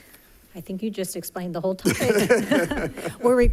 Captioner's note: chuckles; chuckling